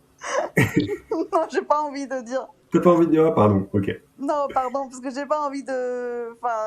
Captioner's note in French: rires